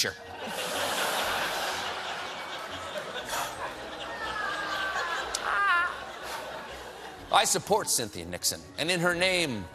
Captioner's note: laughter